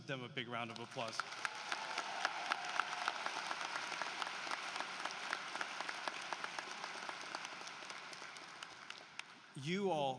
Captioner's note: applause